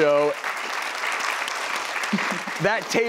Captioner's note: audience applauds